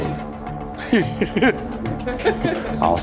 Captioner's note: laughter